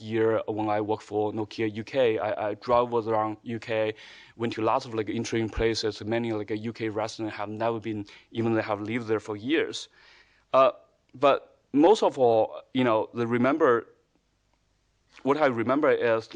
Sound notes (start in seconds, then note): none